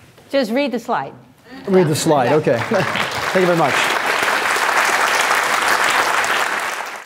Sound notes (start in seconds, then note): 2.5 clapping